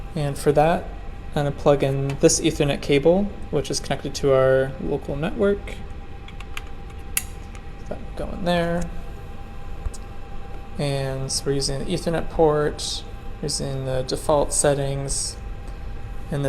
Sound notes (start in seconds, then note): 6.2 cable clicks